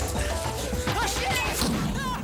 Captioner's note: shouts; explosion rumbles